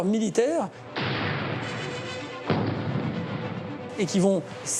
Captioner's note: explosion booms